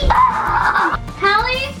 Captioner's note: shrills playfully